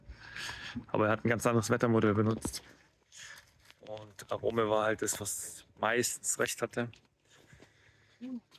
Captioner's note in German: seufzt